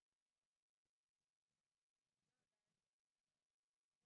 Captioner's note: none